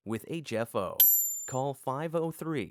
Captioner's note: bell dings